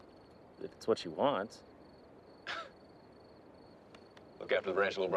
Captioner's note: chuckles